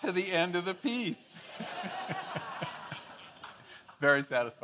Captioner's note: audience laughing